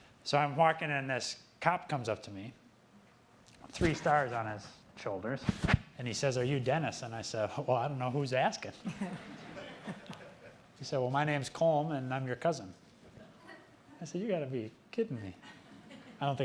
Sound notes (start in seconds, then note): 8.9 laughing; 13.2 audience laughing